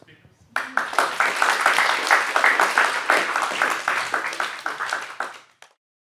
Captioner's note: audience applause